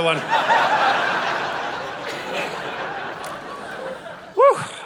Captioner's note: audience laughing